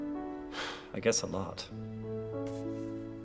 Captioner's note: sighs